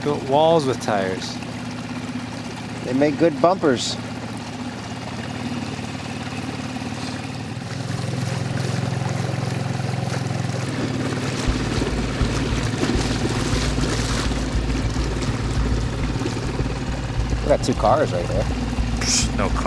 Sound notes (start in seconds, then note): 8.5 boat engine revving